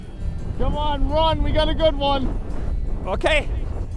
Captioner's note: voiceover